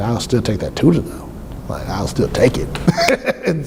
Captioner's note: laughs